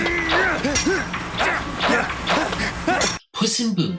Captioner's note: both grunting